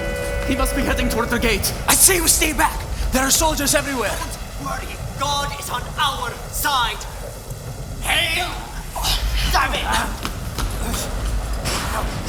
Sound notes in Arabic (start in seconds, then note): 7.2 اصوات العاصفة